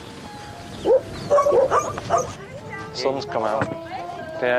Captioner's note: dogs bark